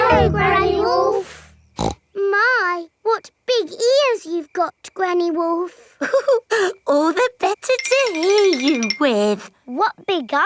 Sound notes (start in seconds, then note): 1.7 snorts; 6.6 chuckles